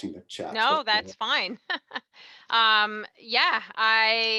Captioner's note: laughs